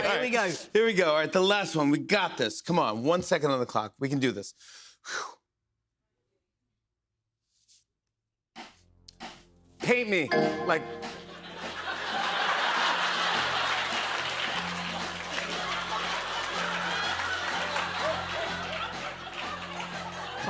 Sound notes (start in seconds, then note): 11.2 laughter; 13.4 cheers and applause